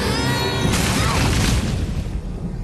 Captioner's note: crash